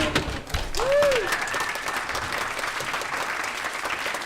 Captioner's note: applause